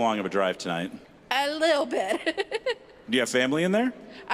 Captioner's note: laughing